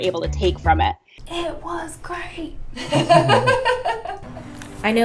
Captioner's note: laughter